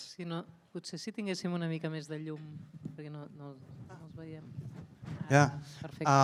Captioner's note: speaks in a foreign language